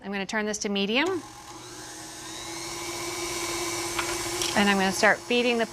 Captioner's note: grinder roars